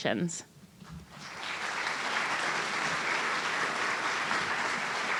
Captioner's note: audience applauding